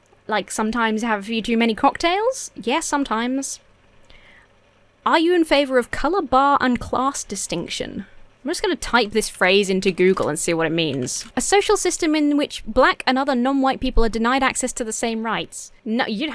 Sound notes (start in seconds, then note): none